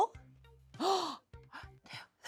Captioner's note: gasps